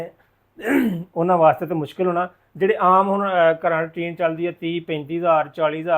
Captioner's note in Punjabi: ਗਲਾ ਸਾਫ਼ ਕਰਨ ਦੀ ਅਵਾਜ਼